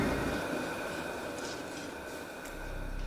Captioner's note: heavy breathing; eerie music